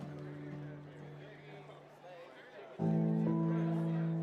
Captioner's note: people laughing